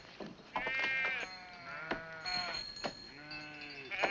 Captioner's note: sheep baa